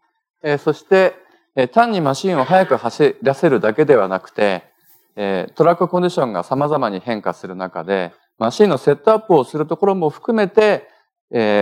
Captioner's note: speaking japanese